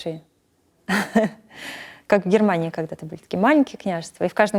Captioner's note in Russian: смеется